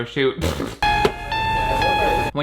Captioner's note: blowing a raspberry; ominous music